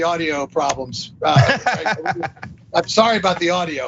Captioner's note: laugh